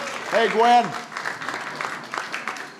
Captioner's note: applause